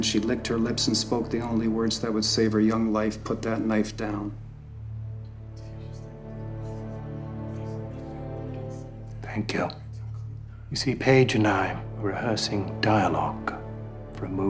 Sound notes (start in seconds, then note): 5.4 dramatic music; 5.6 audience murmuring